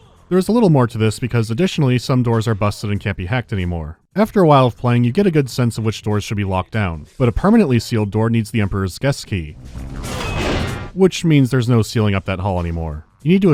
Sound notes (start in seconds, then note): 9.6 whack